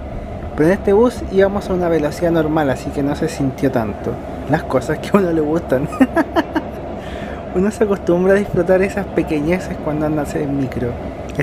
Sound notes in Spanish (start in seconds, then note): 5.8 risas